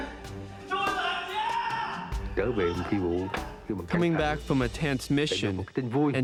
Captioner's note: non-english speech